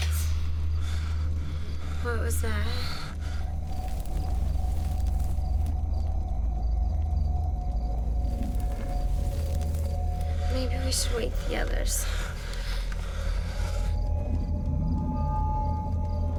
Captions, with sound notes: [branch snaps] WHAT WAS THAT? [brush crackling] [growly breathing] MAYBE WE SHOULD WAKE THE OTHERS.